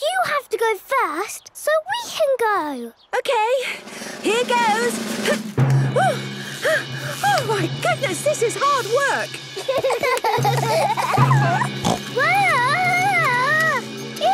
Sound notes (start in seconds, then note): 9.4 children giggling; 11.3 snorts